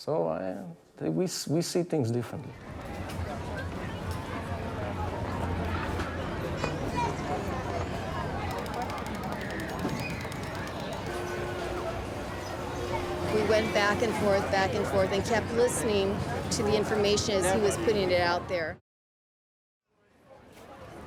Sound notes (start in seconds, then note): 3.3 background talking